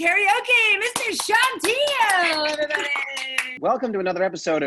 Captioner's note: loud claps